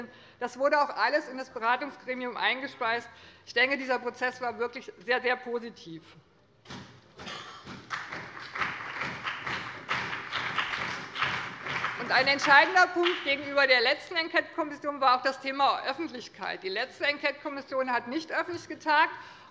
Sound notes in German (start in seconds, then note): 5.5 Beifall bei dem BÜNDNIS 90/DIE GRÜNEN und der CDU sowie bei Abgeordneten der SPD